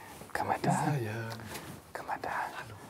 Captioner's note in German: leise